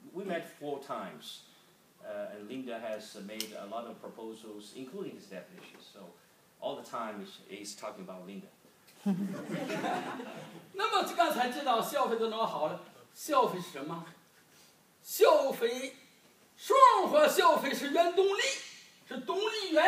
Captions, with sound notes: We met four times, and Lina has made a lot of proposals, including these definitions. So, all the time he's talking about Linda. (group laughs) (speaking foreign language)